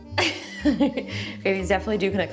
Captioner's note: laughing